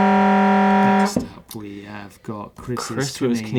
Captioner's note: alarm